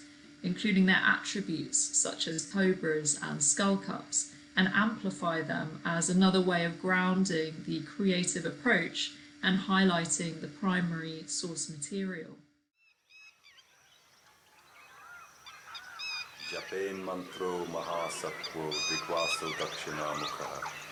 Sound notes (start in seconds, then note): 13.1 birds chirping; 16.6 speaking in a foreign language